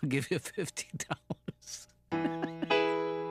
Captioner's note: laughing